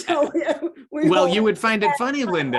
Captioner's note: laughing